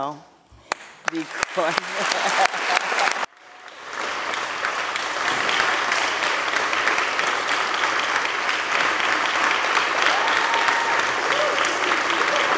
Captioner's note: applause